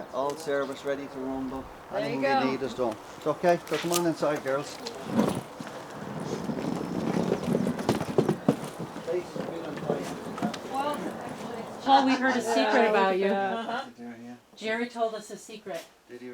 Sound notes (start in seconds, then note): 5.1 suitcase wheels crunching